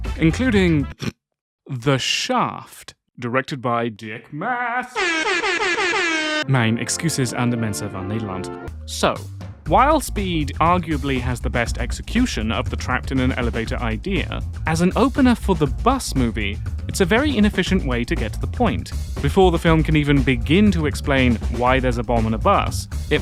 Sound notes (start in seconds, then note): 0.9 ahem; 4.9 air horn